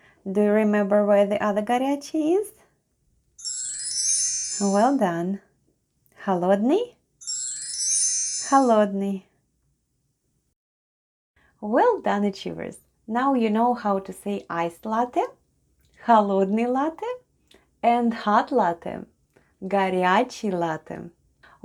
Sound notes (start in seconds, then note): 3.4 chime sound; 10.3 chime sound